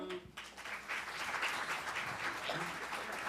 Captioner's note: applause